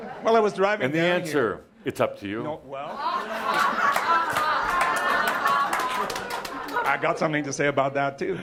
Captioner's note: laughter and applause